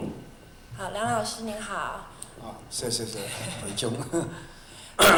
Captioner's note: Mandarin